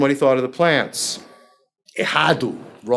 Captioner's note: foreign language